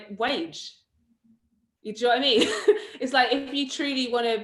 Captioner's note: laughs